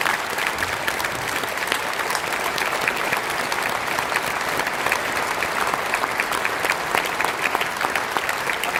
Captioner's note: applause